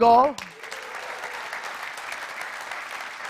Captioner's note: applause